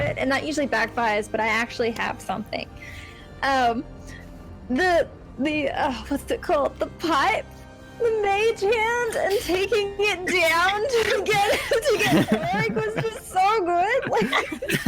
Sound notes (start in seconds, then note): 11.7 laughs